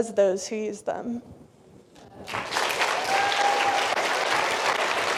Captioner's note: applause